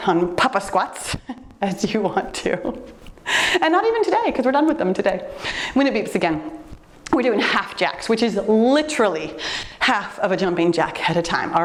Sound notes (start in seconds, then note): 2.2 laughs